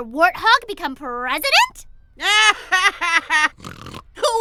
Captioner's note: laughs